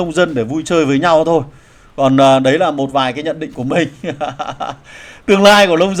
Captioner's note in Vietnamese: tiếng cười